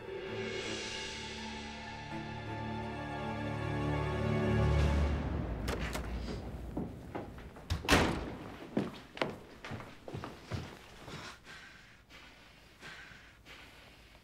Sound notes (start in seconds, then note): 7.5 door Knocking sound; 11.4 rapid breathing sounds